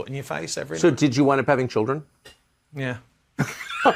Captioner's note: laughs